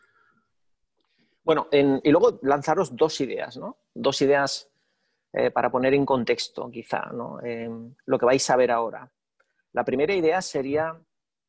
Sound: speaking spanish

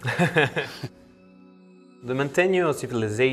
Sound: both laugh

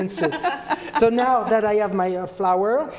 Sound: women laugh

